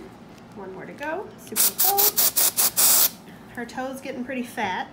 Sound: spraying

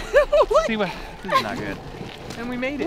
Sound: laughs

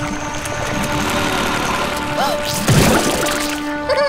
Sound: gasping; laughing

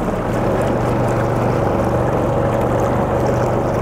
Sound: engine purring

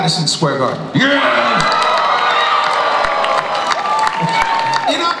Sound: audience applauds and cheers

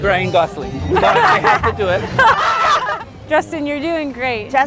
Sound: shouts

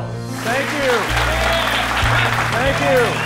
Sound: audience applauds

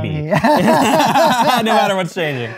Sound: laughter

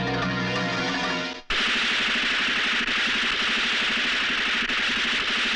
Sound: gun Firing

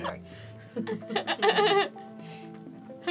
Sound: nervous laughter

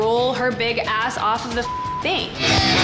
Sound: beep

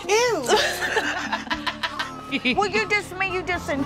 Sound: laughter

